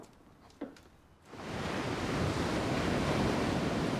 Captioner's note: waves crashing